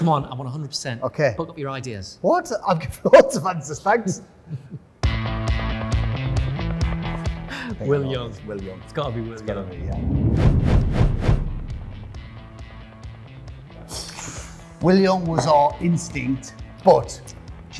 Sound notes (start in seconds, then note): 5.0 upbeat rock music; 9.7 whooshing